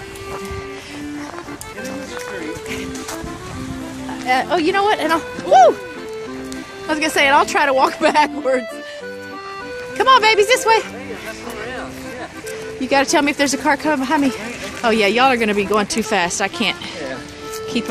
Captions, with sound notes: Get in the street Oh you know what? WHOO!! I was gonna' say ... I'll try to walk backwards [Laughter] Come on babies this way! You've got to tell me if there's a car coming behind me. oh yeah y'all are going to be going too fast, I can't keep up.